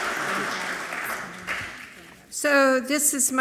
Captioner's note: speaking away from mic